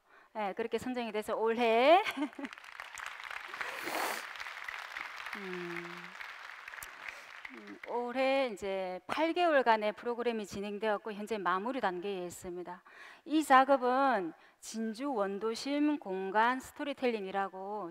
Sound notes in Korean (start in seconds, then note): 2.0 박수